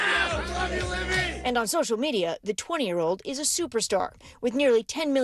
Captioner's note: cheers